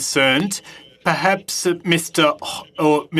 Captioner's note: speaking French